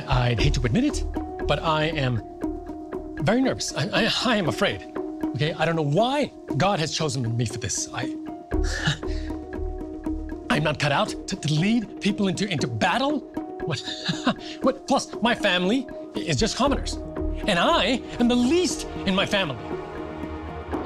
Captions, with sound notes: - I hate to admit it, but I am very nervous. I am afraid. Okay, I don't know why God has chosen me for this. I'm not cut out to lead people into battle! (nervous laughter) Plus my family - it's just commoners. And I am the least in my family.